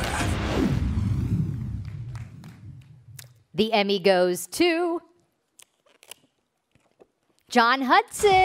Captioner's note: applause